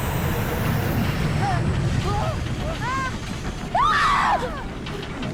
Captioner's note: screaming